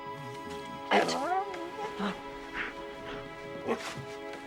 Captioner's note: dog whining